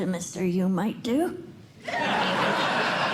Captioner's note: laughter